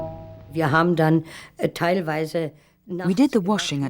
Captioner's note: speaking german